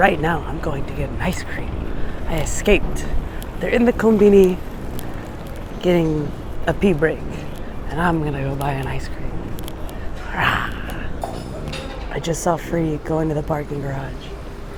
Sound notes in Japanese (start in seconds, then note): 8.8 きゃー